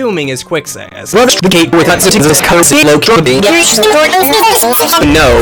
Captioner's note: loud Seizure Noises